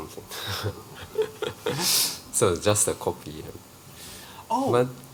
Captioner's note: laughs